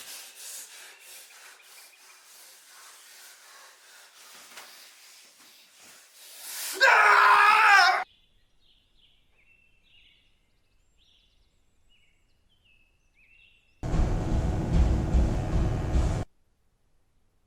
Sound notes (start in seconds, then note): 6.7 Phil screams; 9.7 birds chirping; 13.9 electric buzzing